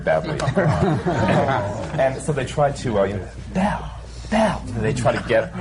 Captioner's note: laughter